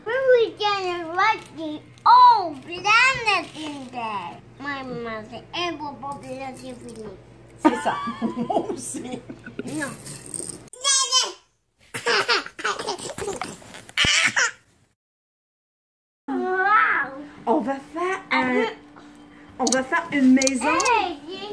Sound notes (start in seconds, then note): 7.6 laughing